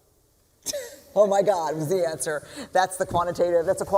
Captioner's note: laughs